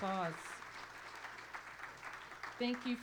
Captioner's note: applause